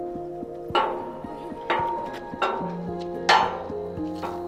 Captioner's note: metal clanging